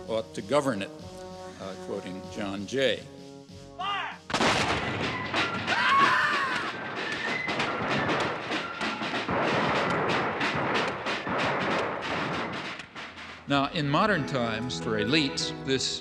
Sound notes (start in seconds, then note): 4.2 gunshots booming; 5.3 fife and drum music; 5.7 woman screaming